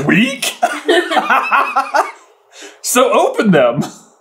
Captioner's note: laughter